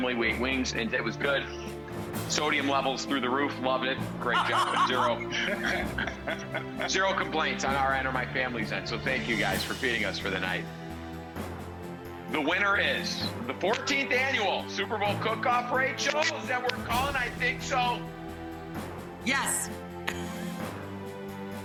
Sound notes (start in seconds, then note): 6.1 laughs